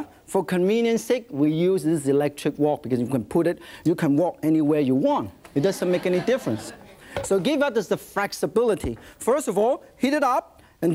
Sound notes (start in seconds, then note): 5.6 audience murmurs